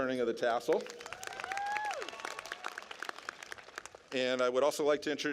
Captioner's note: clapping